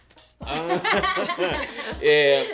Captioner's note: laughter